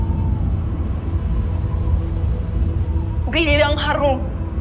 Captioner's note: wind howling